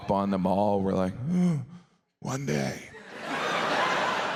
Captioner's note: sighs; audience laughs